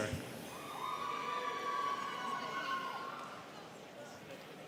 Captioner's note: students cheering